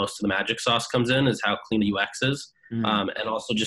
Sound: hums

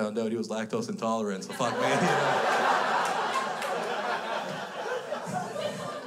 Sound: crowd laughs

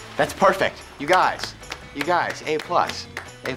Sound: claps

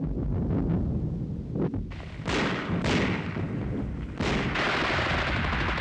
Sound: guns firing and shells exploding

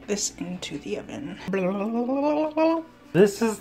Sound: making boiling sound effect

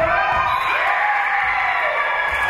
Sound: spectators cheering; whistle being blown; spectators cheering and applauding

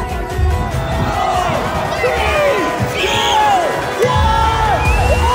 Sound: people clamoring

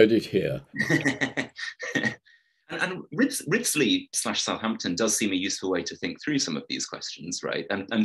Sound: laughing

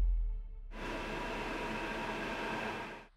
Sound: metro passing

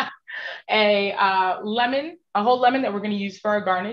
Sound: chuckling

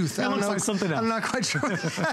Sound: laughter

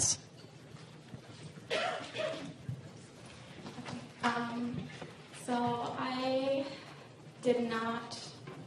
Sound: cough

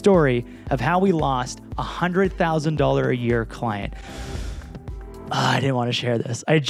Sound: inhales sharply

